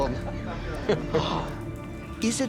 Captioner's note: chuckling